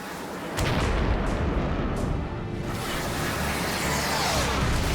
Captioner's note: explosion; explosion